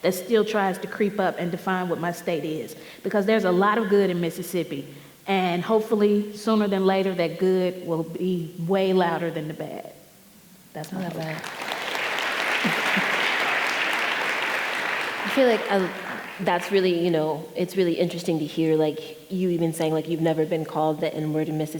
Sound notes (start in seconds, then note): 11.0 audience applauding